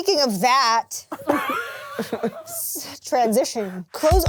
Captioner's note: laughs